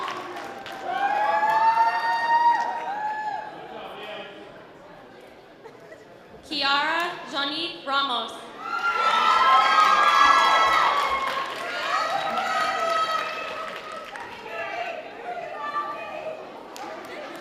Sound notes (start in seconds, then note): 0.0 audience cheering; 13.7 audience applause